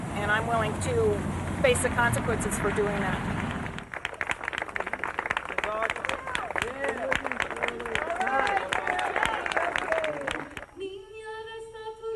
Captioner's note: applause